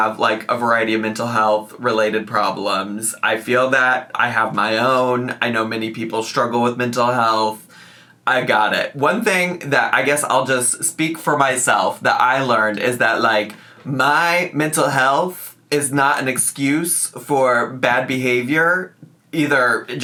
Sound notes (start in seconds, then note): none